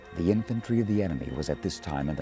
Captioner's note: voiceover